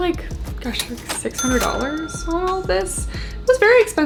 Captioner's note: cash register dings